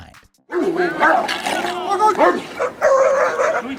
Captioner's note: dogs bark